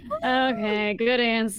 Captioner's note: all laughing